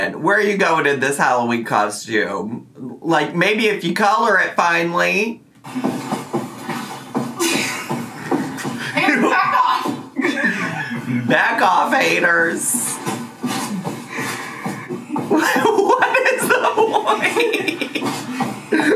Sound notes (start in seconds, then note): 15.2 laughing